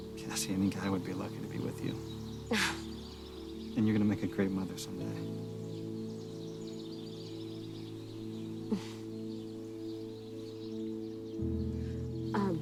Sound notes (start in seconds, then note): 2.5 Cassie laughs; 8.7 Cassie chuckles